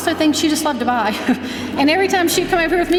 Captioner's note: laughing